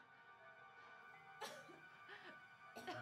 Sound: Leah coughing

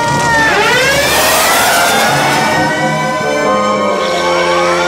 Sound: police sirens

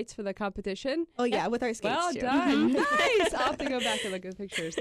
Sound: laughs

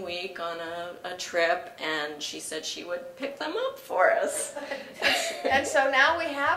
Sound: laugh

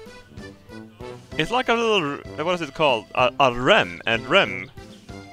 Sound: speaking Swedish

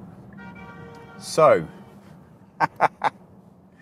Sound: agressive honking

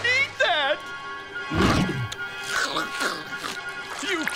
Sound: chomping

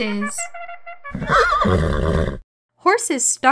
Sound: horse whinnying

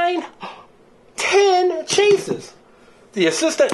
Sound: gasps

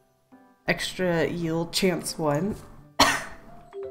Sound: coughs

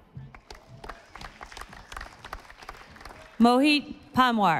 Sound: audience applauding

